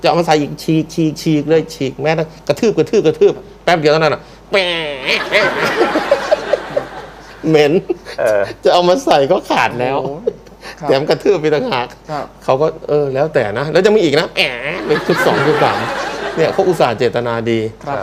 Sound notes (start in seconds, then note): 4.6 laughing